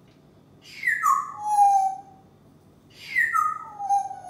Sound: bird whistle

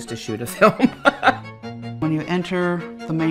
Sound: laughs

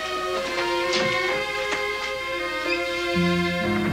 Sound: door opens and closes

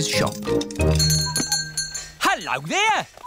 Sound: bell ringing

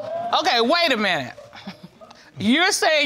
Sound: chuckles

